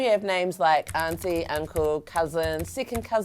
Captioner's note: clicking